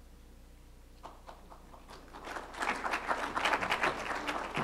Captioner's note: applause